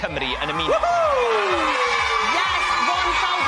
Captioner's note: cheering